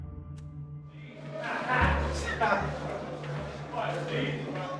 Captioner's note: indistinct chatter